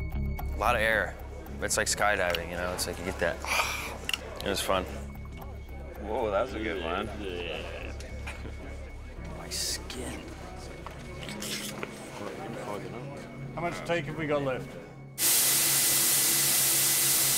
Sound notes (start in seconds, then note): 3.1 imitates wind; 11.0 mimics sound of skin rippling